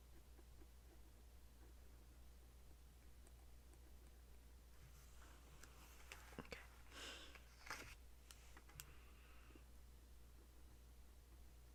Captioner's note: some more writing sounds